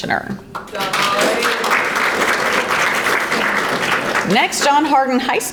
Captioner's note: audience applauding